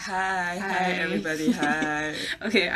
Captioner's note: laughs